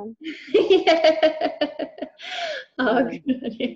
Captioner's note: laughs